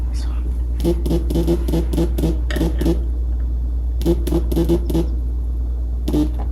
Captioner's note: phone keeps buzzing